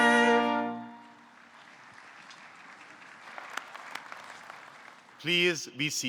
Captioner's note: audience clapping